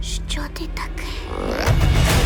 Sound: chittering

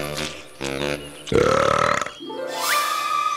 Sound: burps

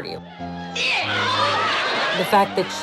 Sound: audience laughter

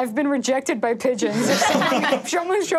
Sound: all laughing

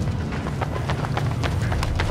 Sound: footsteps running

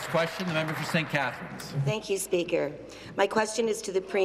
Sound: applause

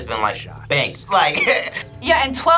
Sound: laughs

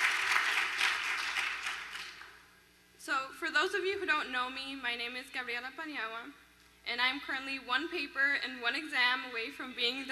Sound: applause

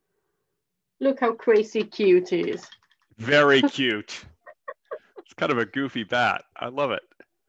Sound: laughs

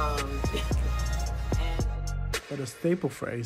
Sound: poet chuckling

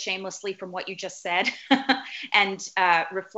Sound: laughs

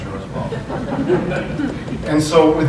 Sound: laughter

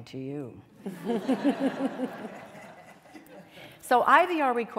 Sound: laughter

